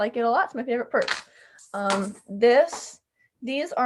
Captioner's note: purse rustling